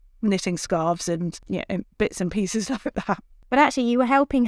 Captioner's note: chuckles